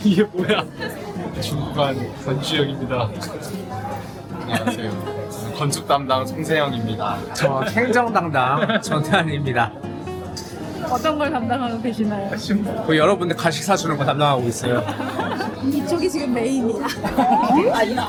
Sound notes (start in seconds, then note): 14.6 laughter